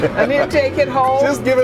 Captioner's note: laughing